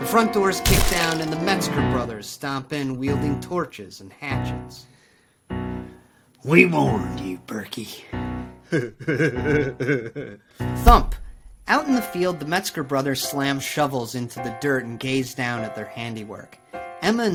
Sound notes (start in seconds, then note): 8.6 Carl laughing